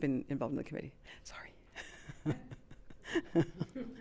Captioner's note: chuckles